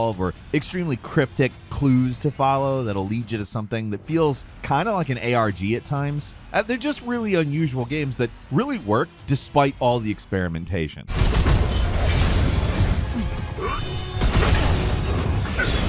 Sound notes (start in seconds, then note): 11.5 gunshots